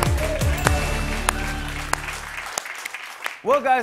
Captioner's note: cheers and applause; ding